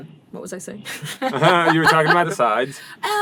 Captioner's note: laughter